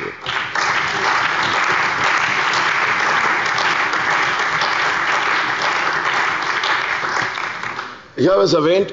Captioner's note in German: Beifall bei der CDU und dem BÜNDNIS 90/DIE GRÜNEN